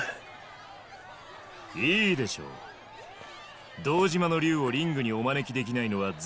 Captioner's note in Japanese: 大歓声